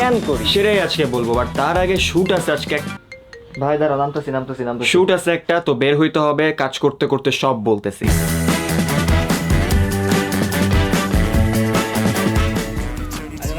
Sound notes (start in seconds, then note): 2.1 phone ringing